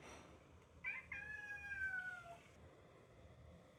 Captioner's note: meow